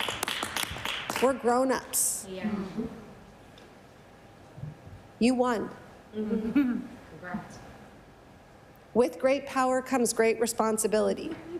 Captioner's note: some Applause